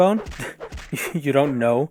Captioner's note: scoff